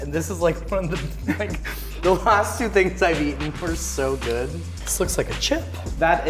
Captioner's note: laughs